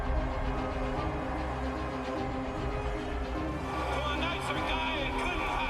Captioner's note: crowd cheering